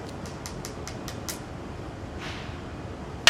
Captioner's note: tapping